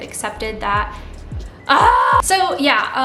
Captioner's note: yells